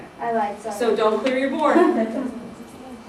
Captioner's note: laughter